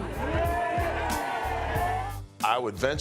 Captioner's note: crowd cheers